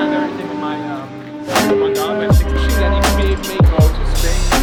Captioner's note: chatters